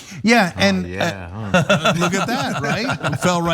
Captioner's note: laugh